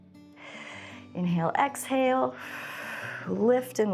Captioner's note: exhales